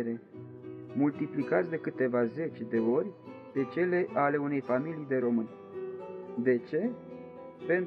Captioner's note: romanian